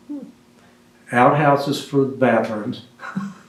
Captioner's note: laughs